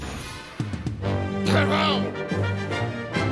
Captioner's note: shouts command